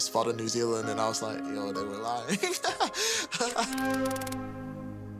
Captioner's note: laughs